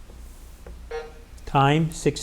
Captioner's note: timer buzzing